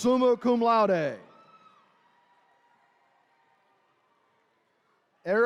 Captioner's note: attendees cheering